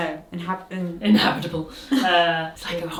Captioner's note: laughs